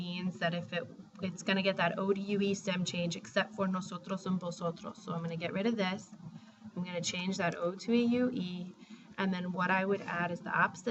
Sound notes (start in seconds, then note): 4.0 spanish